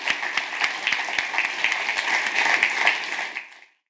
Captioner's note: audience applauds